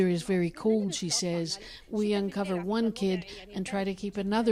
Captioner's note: speaking alternate language